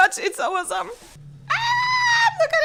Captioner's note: little girl squeal